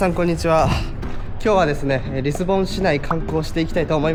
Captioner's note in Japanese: 鼻息